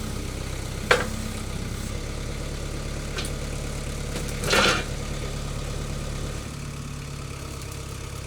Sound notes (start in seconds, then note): 4.5 log thudding